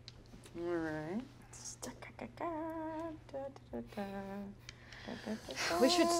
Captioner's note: humming